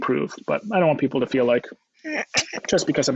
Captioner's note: kisses